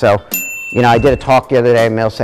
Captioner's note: bell ding